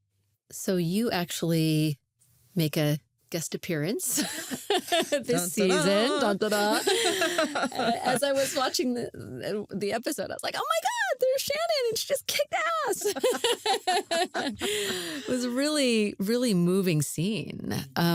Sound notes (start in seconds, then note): 4.2 laughs; 5.0 sings; 13.0 both laugh